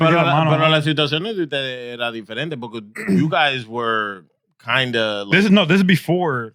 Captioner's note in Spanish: Hablando en idioma extranjero